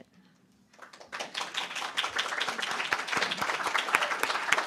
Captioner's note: audience clapping